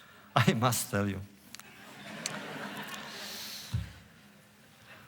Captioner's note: laughter